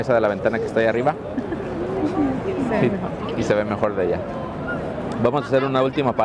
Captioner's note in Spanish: risas